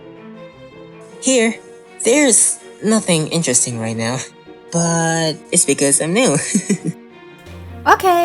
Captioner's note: chuckles